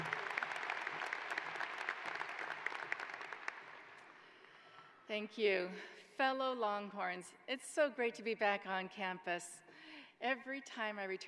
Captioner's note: applause